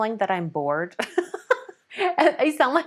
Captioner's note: laughs